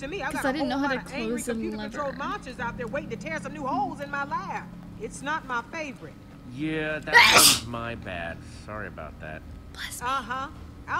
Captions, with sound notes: - 'Cause I didn't know how to close the lever. - (sneezes) - Bless me.